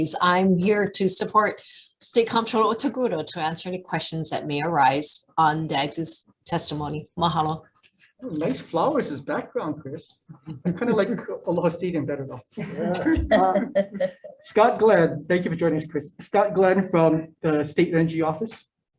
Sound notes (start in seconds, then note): 12.5 laughs